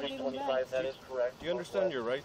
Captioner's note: radio chatter